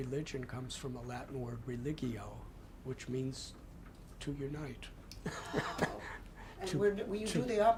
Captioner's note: laughter